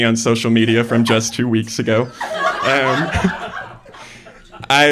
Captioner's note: laughter; laughter